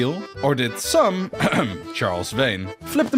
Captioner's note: cough